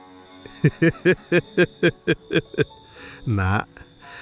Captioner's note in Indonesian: tertawa